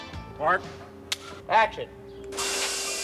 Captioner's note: sign clicking